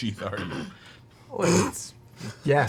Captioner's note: snickers